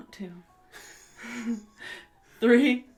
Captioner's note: wheeze laugh